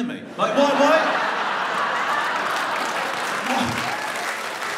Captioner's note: audience laughs